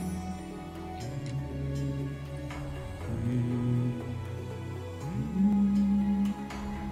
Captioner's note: humming along